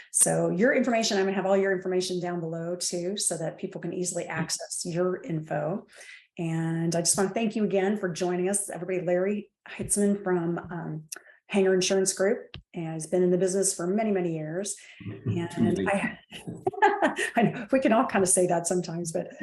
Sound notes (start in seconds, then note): 16.4 laughs